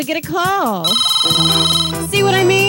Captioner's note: phone rings